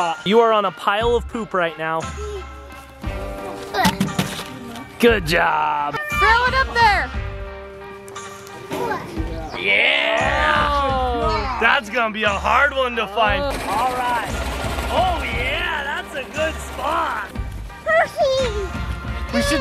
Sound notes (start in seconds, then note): 3.8 money bag slams in wheelbarrow